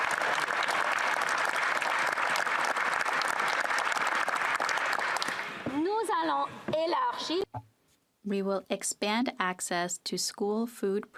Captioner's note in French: applaudissements